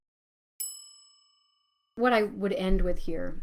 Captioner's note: bells chiming